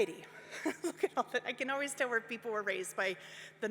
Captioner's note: laughs